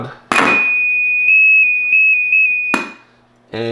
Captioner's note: loud continuous tones